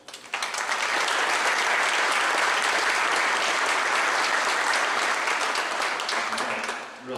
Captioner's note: clapping